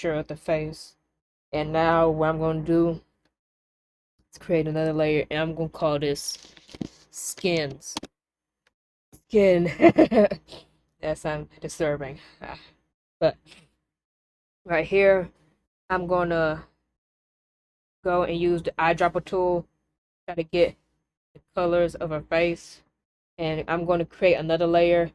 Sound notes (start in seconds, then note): 9.6 laughter